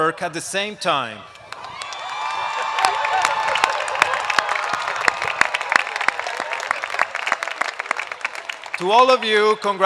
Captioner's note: applause